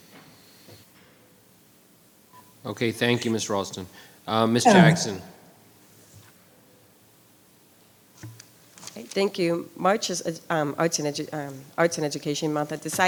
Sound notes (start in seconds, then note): 4.6 clears throat